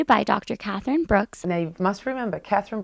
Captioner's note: background talking